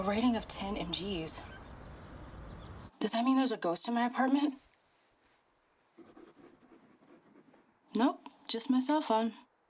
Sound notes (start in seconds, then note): 5.9 pen scratching